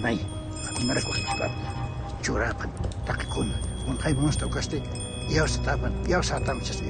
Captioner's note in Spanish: Tintineo de campanas